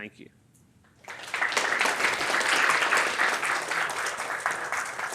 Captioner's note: attendees applauding